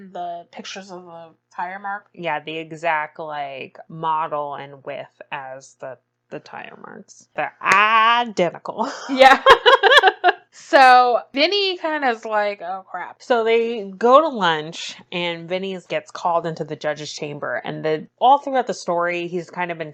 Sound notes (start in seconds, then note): 9.1 laughs